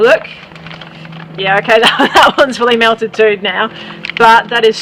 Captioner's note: laughing